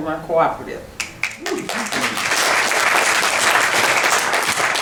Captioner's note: clapping